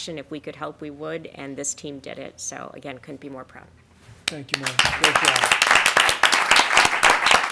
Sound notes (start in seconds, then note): 4.5 applause